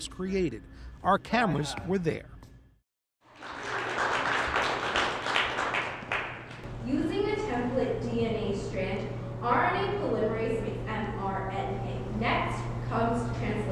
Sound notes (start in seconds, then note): 5.1 audience applause